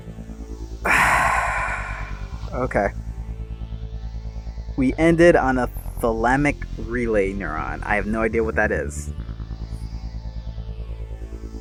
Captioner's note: sigh